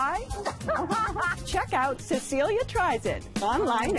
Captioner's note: laughs